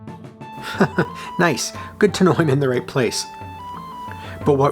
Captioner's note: chuckles